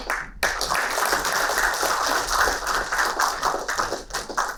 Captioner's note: applauding